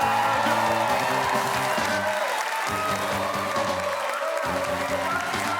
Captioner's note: cheerin